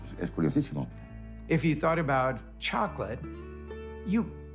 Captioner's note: in English